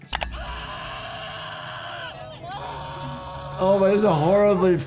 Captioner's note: people screaming